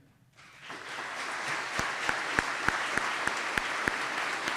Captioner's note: audience clapping